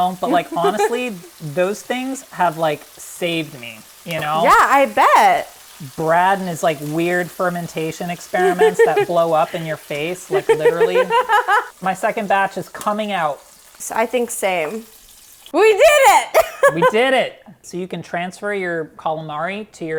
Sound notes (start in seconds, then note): 16.3 laughing